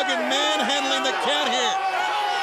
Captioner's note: crowd chatter